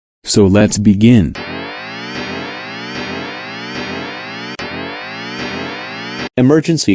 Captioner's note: alarm